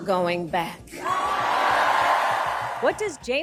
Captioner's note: audience cheering